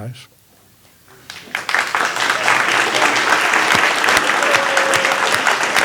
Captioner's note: applause